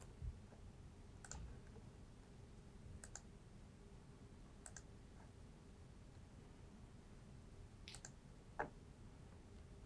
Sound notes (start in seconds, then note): 1.4 mouse clicking